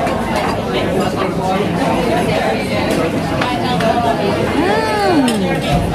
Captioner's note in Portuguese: ambiência de restaurante